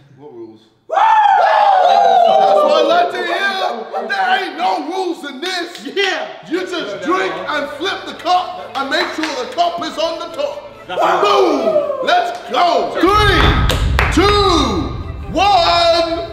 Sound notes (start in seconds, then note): 0.8 group cheering